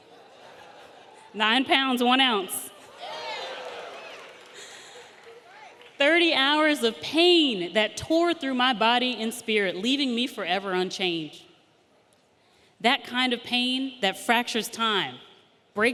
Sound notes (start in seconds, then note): 0.0 audience laughing; 2.8 audience cheering